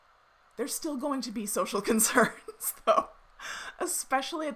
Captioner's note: laughs